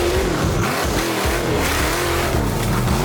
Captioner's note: engine revving